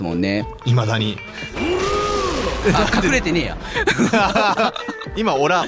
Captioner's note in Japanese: 笑い